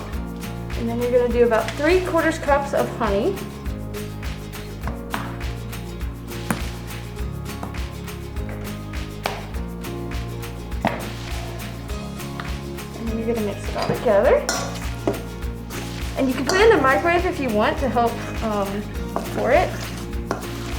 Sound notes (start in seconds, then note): 5.7 bottle crinkling